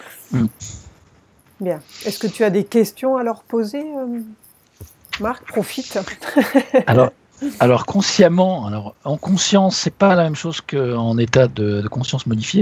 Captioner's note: laughs